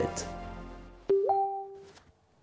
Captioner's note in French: son de notification